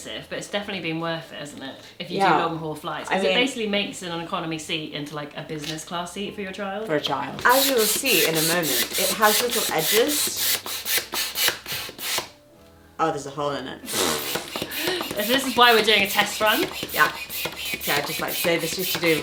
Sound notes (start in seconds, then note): 7.4 pump hissing; 14.6 laughing